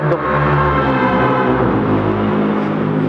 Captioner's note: cars hooning